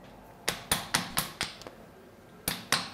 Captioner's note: hammering